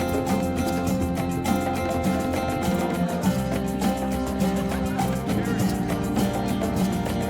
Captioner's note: energetic music continues; people chattering